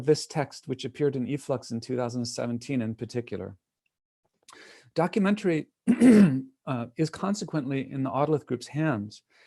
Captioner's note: clear throat